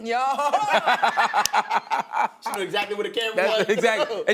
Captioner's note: laughing